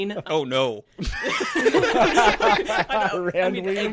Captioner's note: all laughing